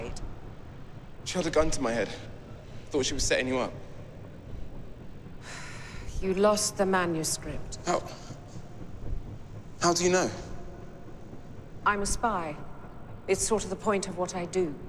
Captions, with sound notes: She had a gun to my head. I thought she was setting you up. (SIGHS) You lost the manuscript. How... how do you know? I'm a spy. It's sort of the point of what I do.